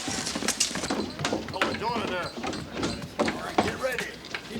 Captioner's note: townsfolk chatter